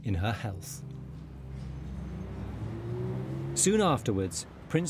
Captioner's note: engines humming